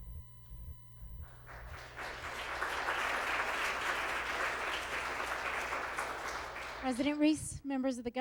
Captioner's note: applause